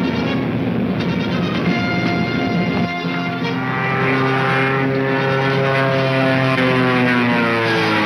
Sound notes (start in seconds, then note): 1.6 engine humming